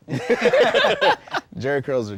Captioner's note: laughter